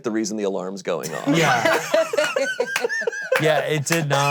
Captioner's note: all laughing